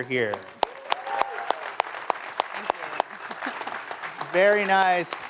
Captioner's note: applause